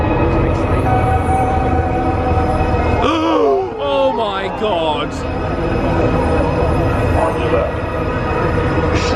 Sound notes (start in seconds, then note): 4.1 gasps; 5.6 dramatic orchestral music